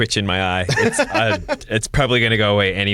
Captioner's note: laughter